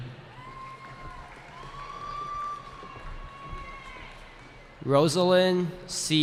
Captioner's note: cheering